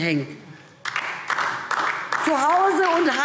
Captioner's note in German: Beifall DIE LINKE